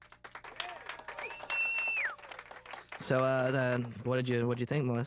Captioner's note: whistling and cheering